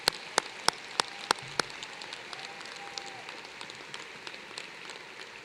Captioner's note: applause